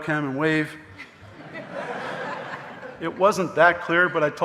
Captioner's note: audience laughing